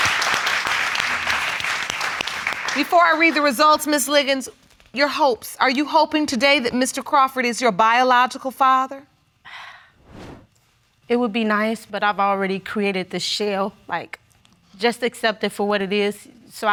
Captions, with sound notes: Before I read the results, Ms. Liggins, your hopes. Are you hoping today that Mr. Crawford is your biological father? (SIGHS) It would be nice, but I've already created this shell. Like, just accept it for what it is.